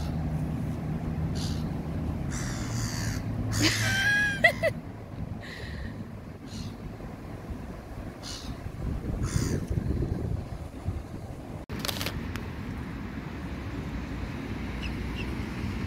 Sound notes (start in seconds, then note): 2.3 gull screams; 3.6 laughter